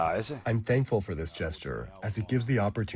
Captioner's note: through translator